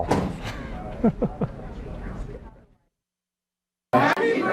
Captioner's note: laughter